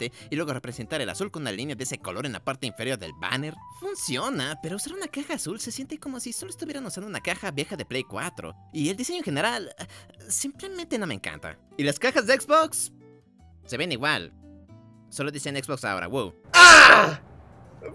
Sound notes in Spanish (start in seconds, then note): 16.5 Grito de dolor